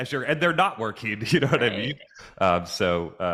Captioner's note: chuckles